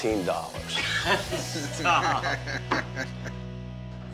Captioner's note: laughter